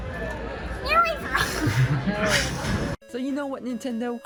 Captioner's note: laughs